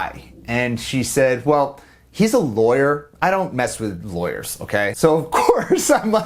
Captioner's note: laughing